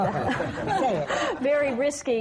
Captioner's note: laughter